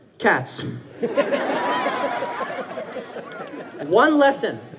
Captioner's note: audience laughing